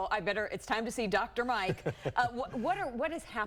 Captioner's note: laughter